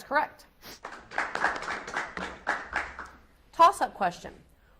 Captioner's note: audience applauds